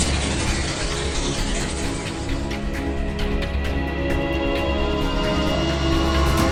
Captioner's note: laser whooshing; border whooshing; dramatic music